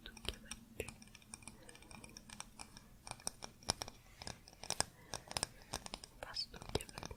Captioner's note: tapping on stone